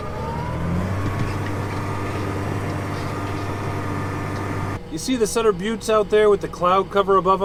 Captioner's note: tractor sound